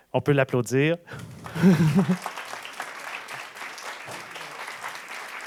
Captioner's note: applause